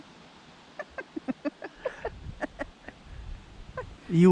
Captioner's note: laughing